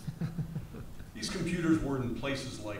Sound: laughs

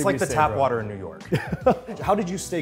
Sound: laughs

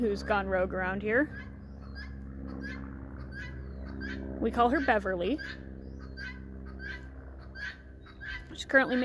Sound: alarming animal screaming noises in the background

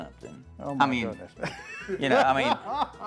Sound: laughter

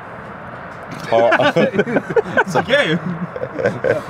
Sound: all laugh

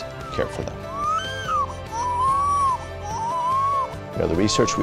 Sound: baby cries

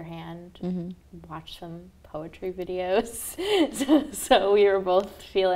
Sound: laughs

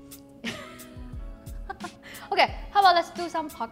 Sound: laughing

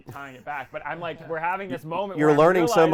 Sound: laughing

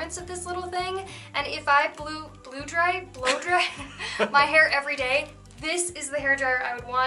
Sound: laughter

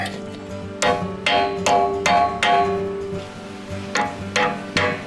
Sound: metal clinking

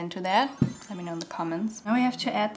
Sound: sparkle sound

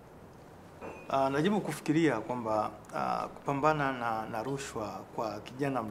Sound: speaking in swahili

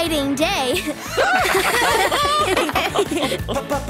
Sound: laughing

